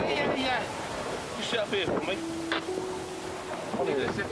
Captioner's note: radio scratches